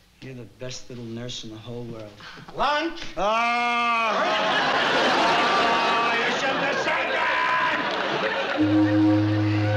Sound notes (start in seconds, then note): 2.8 screaming; 8.5 ship horn blaring